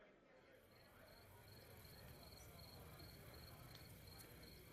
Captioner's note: crickets chirping